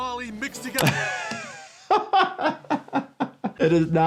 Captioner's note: laughs